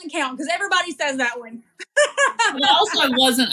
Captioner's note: laugh